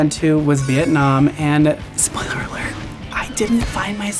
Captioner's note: door creaks